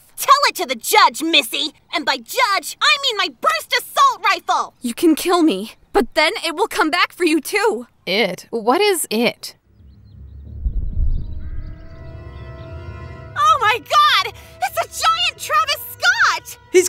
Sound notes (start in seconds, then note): 9.7 rig trembling; 12.5 upbeat dramatic music